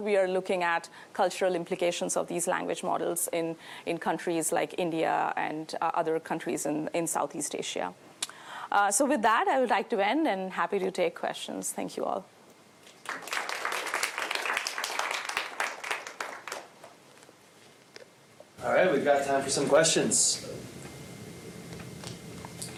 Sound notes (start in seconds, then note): 12.8 applause